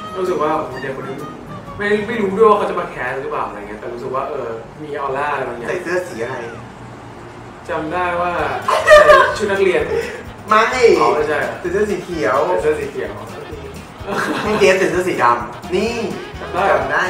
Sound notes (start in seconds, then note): 8.4 Barcode laughs; 13.3 laughs